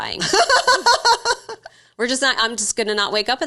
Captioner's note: laughing